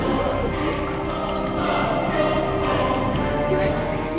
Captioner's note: nails tapping; singing in foreign language